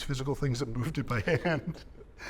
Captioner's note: chuckling